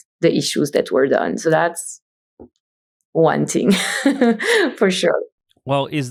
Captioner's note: laughs